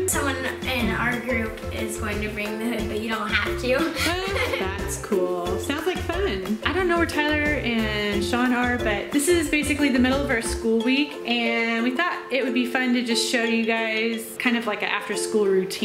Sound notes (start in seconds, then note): 3.8 laughing